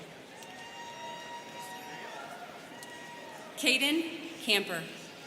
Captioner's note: students cheering